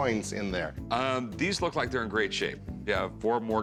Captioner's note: none